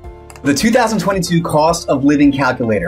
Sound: cursor clicks

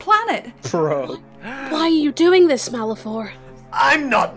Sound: gasps

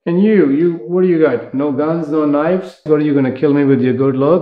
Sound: none

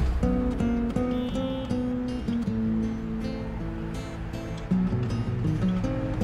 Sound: car horn faintly beeping

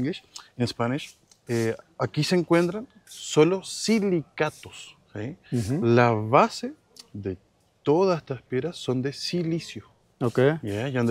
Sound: speaking in Spanish

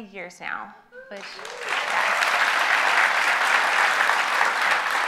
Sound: audience applauds

